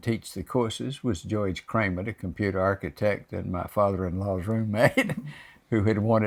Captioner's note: laughs